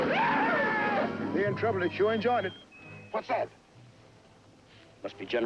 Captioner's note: whooping; whistling